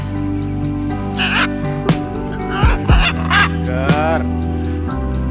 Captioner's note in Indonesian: Suara Burung